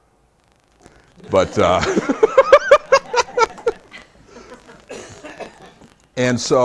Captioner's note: laughs